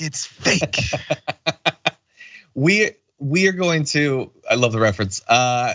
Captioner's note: laugh